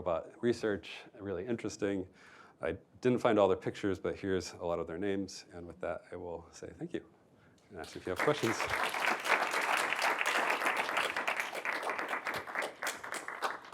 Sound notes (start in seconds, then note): 9.7 applause